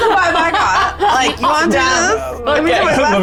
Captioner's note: chuckling